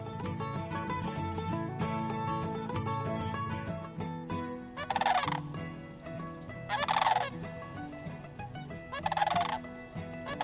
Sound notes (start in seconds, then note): 4.7 duck calls